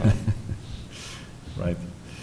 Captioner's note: laughing